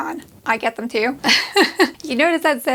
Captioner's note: laughs